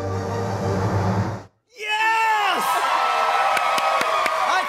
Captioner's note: cheers and applause